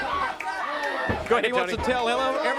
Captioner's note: crowd chatter